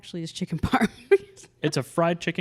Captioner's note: laughs